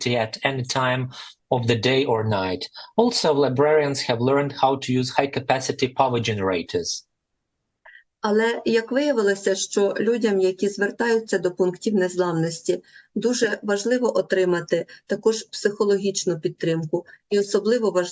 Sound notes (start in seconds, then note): 6.3 foreign language